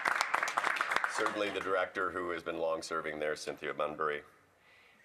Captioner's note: some Applause